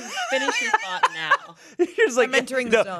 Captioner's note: laughs